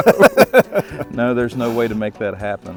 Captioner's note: laughs